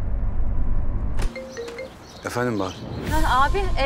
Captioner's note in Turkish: Telefon çalıyor